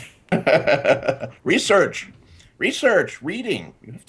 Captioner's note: laughing